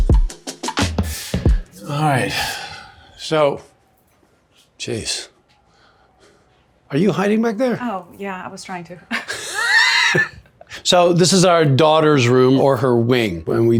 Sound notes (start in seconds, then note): 9.1 laughs